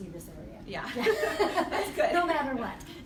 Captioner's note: laughs